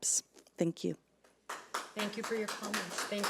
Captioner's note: applauding